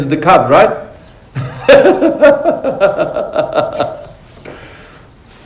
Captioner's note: laughter